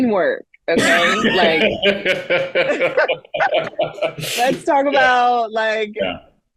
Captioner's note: laughing